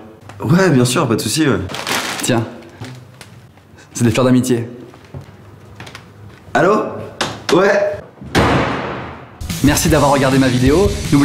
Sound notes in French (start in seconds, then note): 8.2 claquement de porte